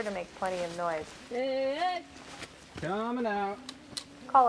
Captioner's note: background - hikers, loud footsteps